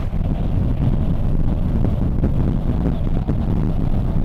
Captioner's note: wind howling